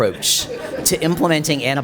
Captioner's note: audience laughs